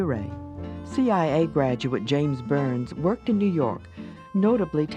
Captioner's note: voiceover